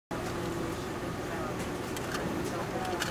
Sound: soft hum of machines

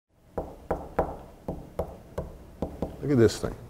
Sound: knocking

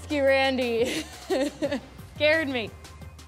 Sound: laughs

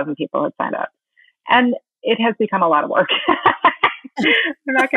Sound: laughing

